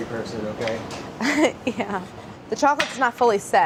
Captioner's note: laughs